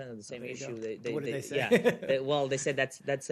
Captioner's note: laughter